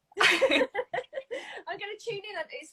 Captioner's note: both laughing